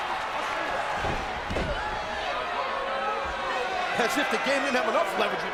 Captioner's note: body thuds